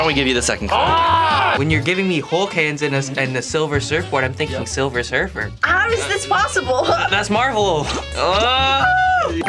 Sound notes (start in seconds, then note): 0.7 both groaning; 8.5 screams in frustration